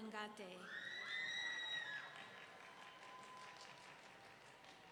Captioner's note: audience cheering